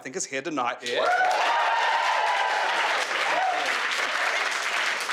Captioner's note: crowd clapping and cheering